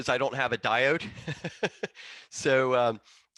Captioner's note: laughing